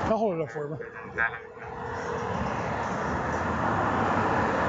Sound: phone ringing

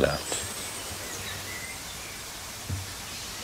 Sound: birds chirping

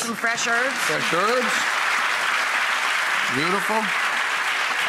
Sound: applause

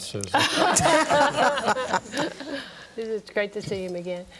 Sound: group laughing

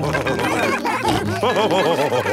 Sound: all cheering; laughing

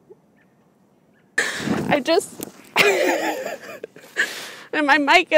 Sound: full-on breakdown noises including maniacal sob-laughing

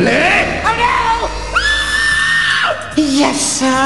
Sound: screams

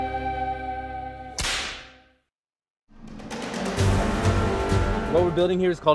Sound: whip

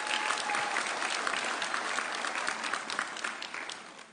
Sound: audience cheering

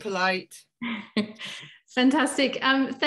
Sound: chuckles

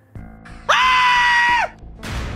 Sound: scream

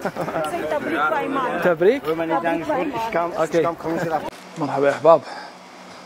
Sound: speaking in foreign language

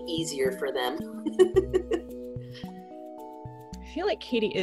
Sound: laughs

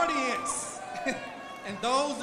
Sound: chuckles

